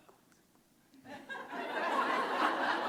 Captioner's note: laughter